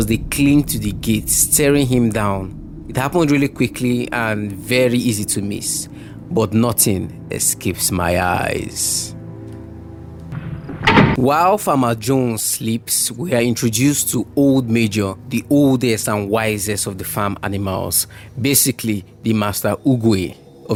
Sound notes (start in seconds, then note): 10.2 door close